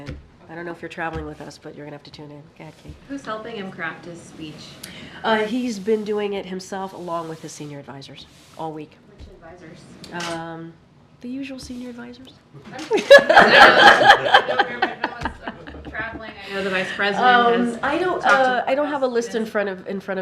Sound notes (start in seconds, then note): 12.8 laughter